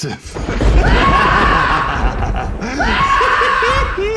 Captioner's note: tex screams; laughs